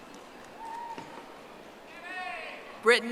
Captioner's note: audience applauding